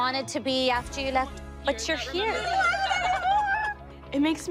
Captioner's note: squeals, laughs